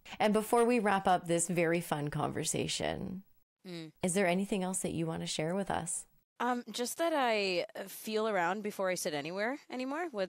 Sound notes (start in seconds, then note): none